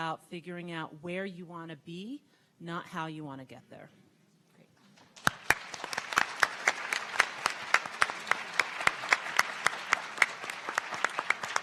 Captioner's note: clapping